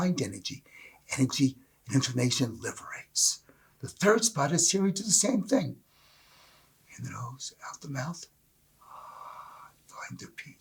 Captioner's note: breath